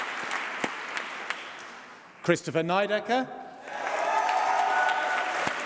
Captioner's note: applause